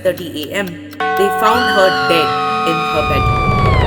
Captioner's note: church Bell; woman Screaming in Shock